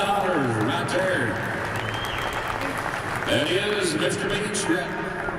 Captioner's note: applause